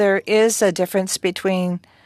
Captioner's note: speaking French